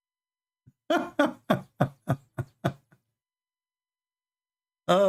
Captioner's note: Ketawa